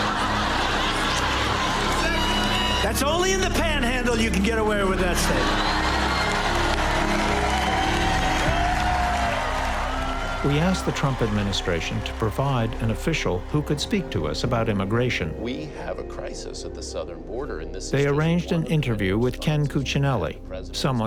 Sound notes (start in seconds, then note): 0.0 laughter; 7.7 cheers and applause